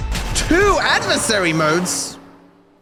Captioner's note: sarcastically